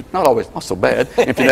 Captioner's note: laughing